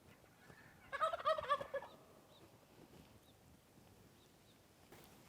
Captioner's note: turkey gobbles